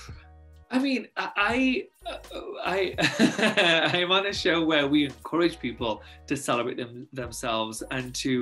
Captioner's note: laughs